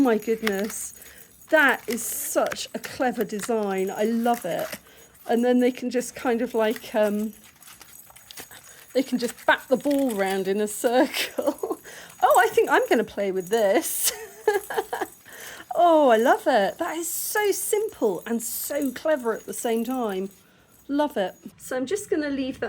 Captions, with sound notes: my goodness that is such a clever design. I love it. And then they can just kind of like, um, they can just bat the ball around in a circle. Oh, I think I'm going to play with this. [laughing] Oh, I love it. That is so simple and so clever at the same time. Love it. So, I'm just going to leave